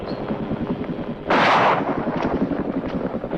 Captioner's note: gunshot